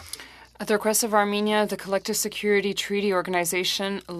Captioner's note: speaking French